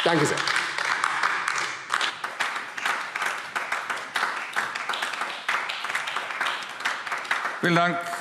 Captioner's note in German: Beifall AfD